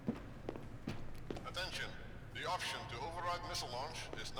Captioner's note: pa system